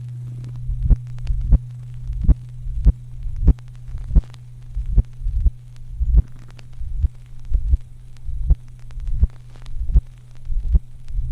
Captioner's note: heart pumps very slow, but strong